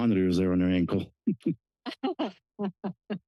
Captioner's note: laughter